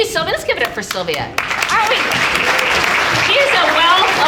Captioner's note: audience applauding